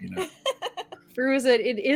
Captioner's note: laughing